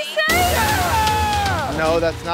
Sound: cheers

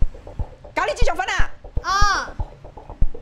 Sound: in Cantonese

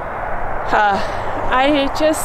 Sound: sighs

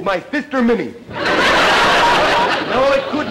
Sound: audience laughter

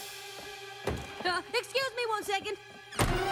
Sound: door rattles

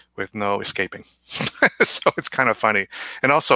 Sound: laughs

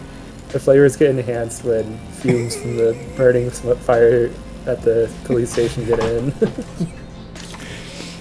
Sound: laughs

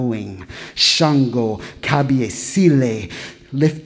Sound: speaking in foreign language

